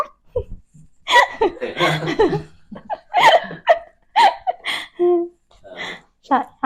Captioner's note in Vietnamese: Tiếng cười